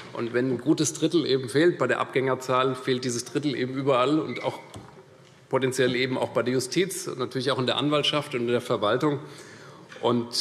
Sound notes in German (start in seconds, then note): none